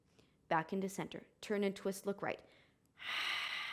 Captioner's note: exhaling